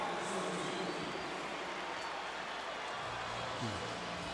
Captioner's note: pa announcement